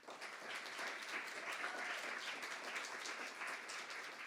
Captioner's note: audience applauding